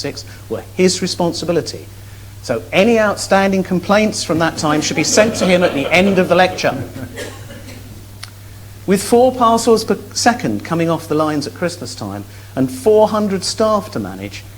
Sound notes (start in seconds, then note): 7.3 laughs